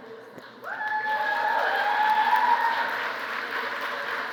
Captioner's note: applause